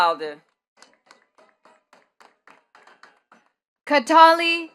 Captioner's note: attendees clapping